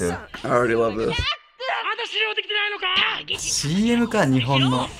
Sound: arguing in Japanese

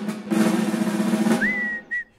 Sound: whistling

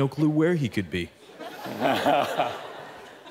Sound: laughter

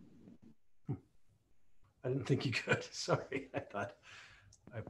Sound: laughs

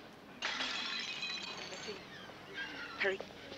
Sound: loud tinkling

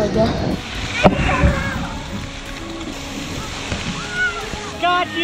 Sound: water splashing

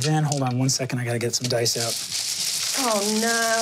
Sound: dice rattling

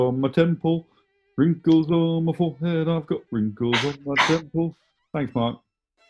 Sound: claps

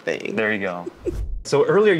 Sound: chuckles

